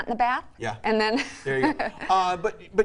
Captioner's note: laughs